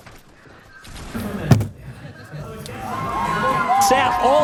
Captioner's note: fist hitting desk